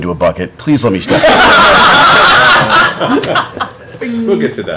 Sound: laughter

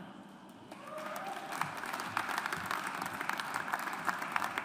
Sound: audience applauds

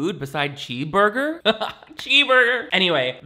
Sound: laughs

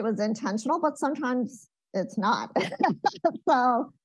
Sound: laughs

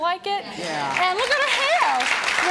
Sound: crowds agrees

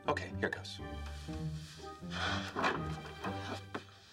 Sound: sighs

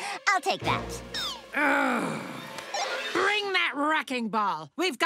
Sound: chuckles; groaning

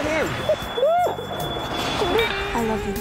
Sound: sobbing

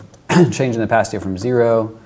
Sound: clears throat

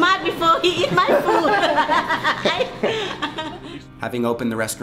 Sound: laughing

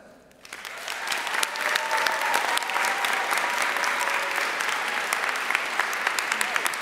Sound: audience cheering and applauding

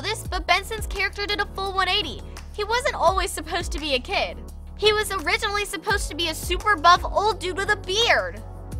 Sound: none

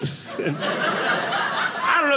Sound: audience laughing

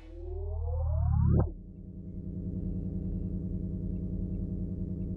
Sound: electronic sounds

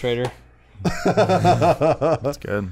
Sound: laughter

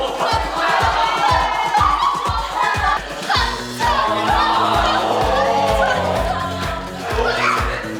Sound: applause

